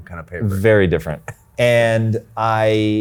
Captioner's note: chuckles